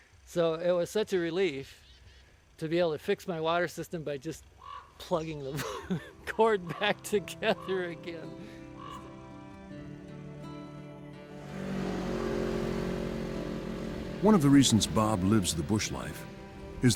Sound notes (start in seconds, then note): 8.2 laughing; 9.1 gentle music; 11.1 snowmobile droning